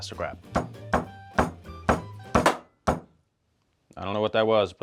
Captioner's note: hand thudding